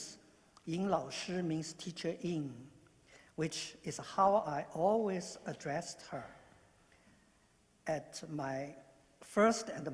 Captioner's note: speaking non-english